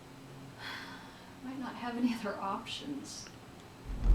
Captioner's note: sighs